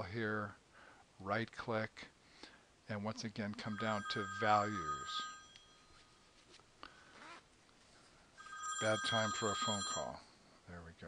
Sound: phone ringing

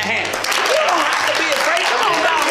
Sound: crowd claps

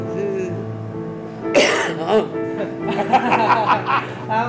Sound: cough; lots of laughter

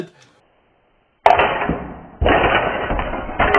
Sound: pieces crash; metal bangs

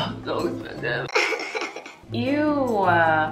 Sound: sobs

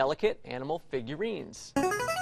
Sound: buzzer plays

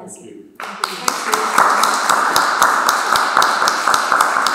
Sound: audience applauds

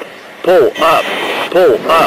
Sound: unknown alarm or warning

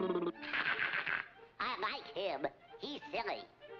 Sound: laughs

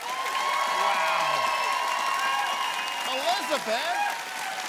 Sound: loud cheering

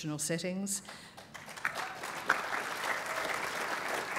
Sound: applause

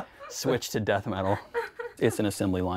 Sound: laughing

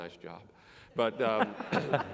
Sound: laugh

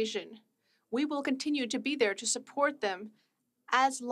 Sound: speaking French

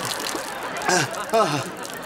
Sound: gasping

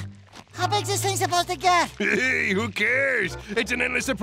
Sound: chuckles

